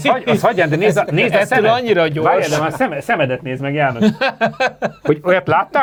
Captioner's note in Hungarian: nevetés